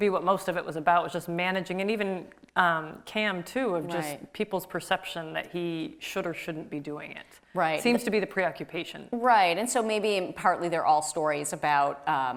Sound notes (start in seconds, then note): none